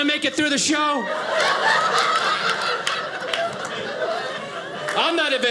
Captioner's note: audience laughing